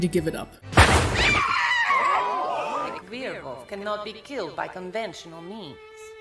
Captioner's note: gun shot and woman screaming